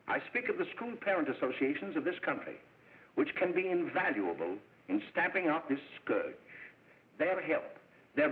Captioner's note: none